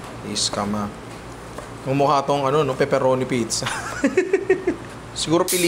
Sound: laughs

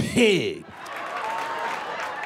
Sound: laughter

